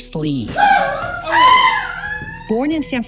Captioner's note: yelling during martial arts move